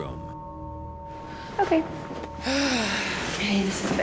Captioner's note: sighs